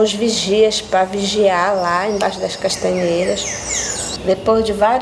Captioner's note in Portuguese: pássaros cantando